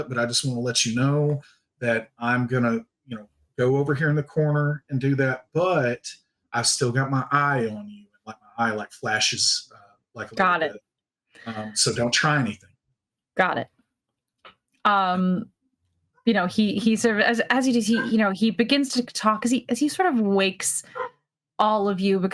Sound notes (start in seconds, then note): 14.4 cast members laughing